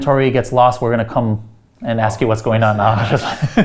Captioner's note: laughs